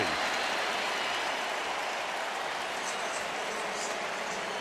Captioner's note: cheering